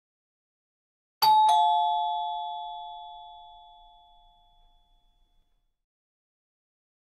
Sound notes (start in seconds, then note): 1.2 sound of doorbell